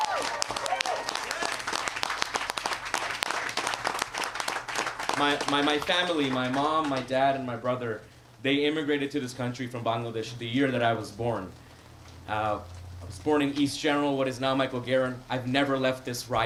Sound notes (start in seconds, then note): 4.3 applause